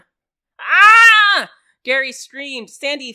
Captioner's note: a scream